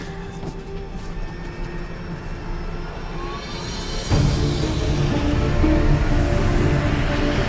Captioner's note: intense instrumental music; airplane engine roaring